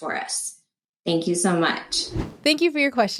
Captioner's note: whooshing